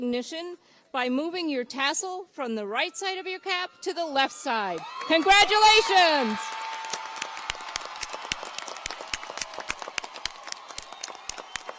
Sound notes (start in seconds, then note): 6.6 audience cheers and applauds